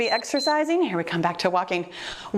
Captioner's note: timer beeps